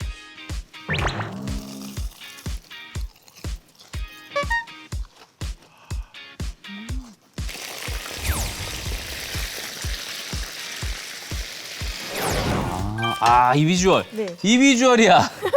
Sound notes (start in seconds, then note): 1.6 munching at the same time; 4.4 crisp, crisp